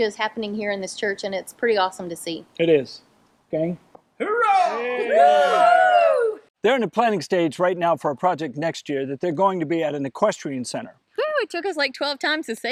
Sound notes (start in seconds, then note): 4.3 crowd cheering